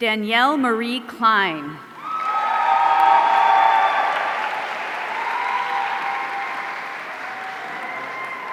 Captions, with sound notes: Danielle Marie Kline. (audience cheering)